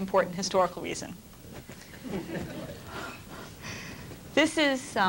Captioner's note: laughter